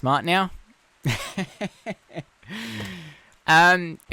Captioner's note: laughs